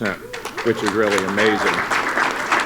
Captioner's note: applause